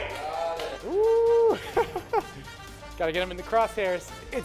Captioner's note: laughs